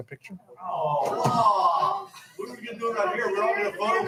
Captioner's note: board members groaning